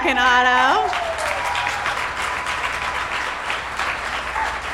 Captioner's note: audience cheer